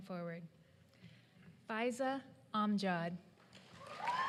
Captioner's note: applause